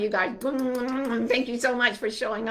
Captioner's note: blowing kisses